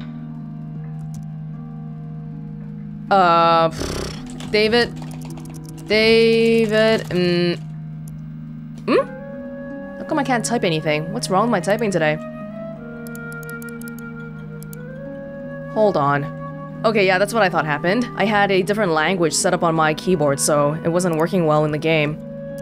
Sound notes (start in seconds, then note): 3.7 blows air through lips